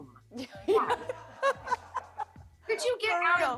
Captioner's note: laughter